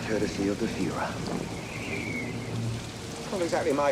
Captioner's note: wind whistling; rain pattering